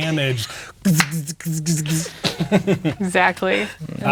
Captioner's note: imitating electricity; laughing